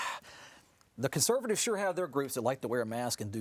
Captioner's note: sighing